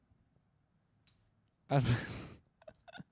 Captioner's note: laughs